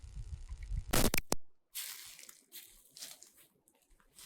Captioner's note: glitch sound